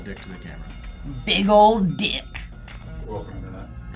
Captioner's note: deep voice